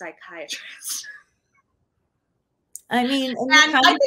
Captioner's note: laughing